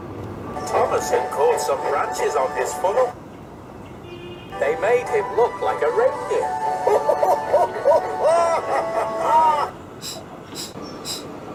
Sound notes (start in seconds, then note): 6.6 laughing